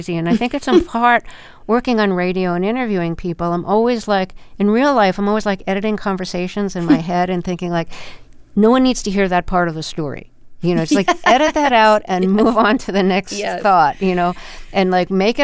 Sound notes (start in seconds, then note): 10.8 laughter